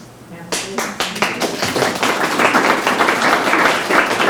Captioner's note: members clapping